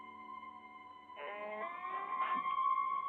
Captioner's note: door creaking